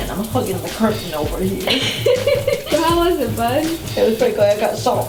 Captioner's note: laughs